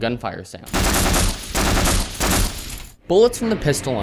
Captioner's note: pew pew; gunfire sounds